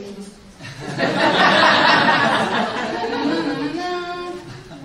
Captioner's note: laughter